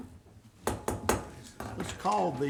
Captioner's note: gavel striking